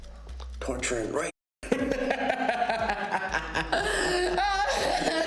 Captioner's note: Ben laughing; Mia crying